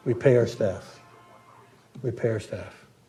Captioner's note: phone goes off